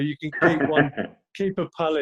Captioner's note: laughs